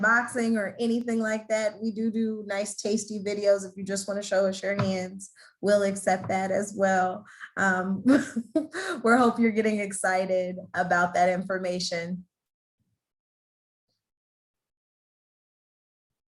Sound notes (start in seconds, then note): 6.7 laughter